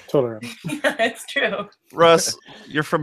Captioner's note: laughs